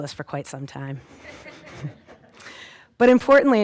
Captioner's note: audience laughing